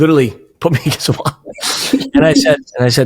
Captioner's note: laughing